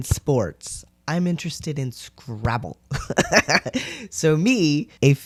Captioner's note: laugh